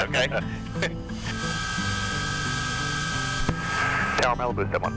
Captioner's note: chuckles